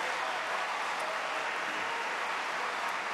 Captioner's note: applause